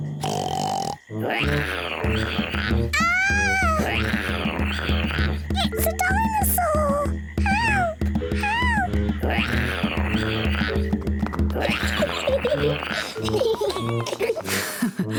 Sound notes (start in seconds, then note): 0.0 oinks and roars; 8.8 roars; 11.2 laughs; 11.2 roars; 14.9 chuckles